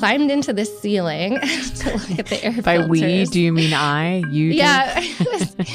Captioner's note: laughs